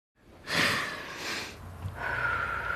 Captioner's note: sighing deeply; exhaling shakily